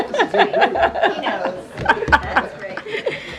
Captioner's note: laughter